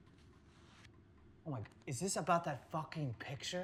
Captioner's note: none